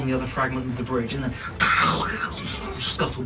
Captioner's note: monsterous noises